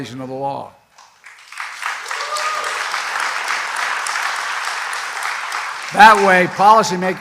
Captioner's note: applause